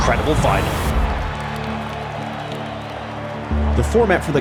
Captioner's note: crowd cheering, applauding